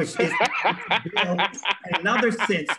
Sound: laughter

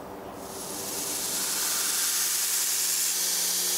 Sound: grinding machine whirrs

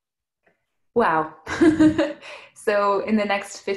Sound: giggles

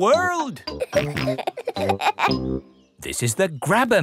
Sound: peppa and george laughing

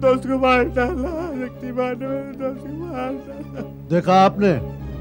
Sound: sobbing

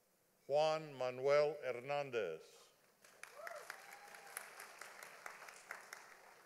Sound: audience applauding

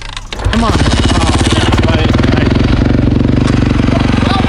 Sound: engine revving

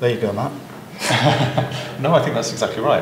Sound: laughs

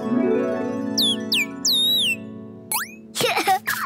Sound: chirping; chuckles

